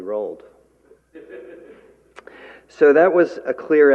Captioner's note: laughter